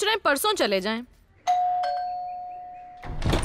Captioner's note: Doorbell rings